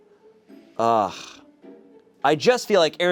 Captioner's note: sighs